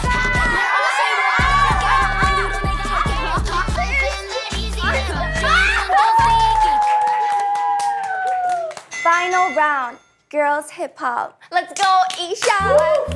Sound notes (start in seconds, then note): 2.4 laughing; 5.9 applause for the great stage